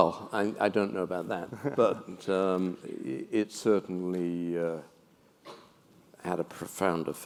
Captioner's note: laugh